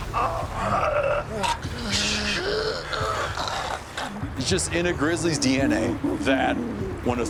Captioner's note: hugh gurgling blood, groaning